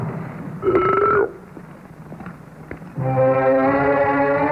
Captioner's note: glass thuds; Dillon burping; pensive orchestral music